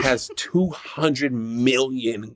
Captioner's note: laughs